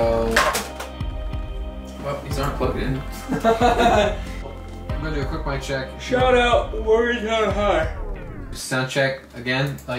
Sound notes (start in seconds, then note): 3.2 laughs; 7.7 music cuts